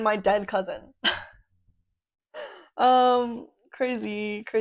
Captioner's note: awkward laugh